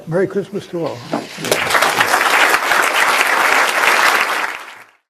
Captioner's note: applause